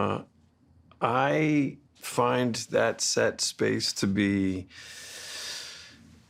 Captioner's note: inhales deeply